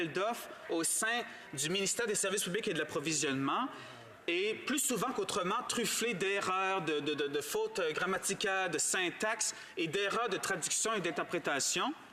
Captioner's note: speaking in french